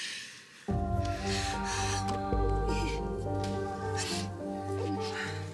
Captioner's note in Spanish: sollozos